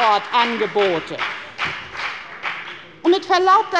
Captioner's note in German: Lebhafter Beifall bei der FDP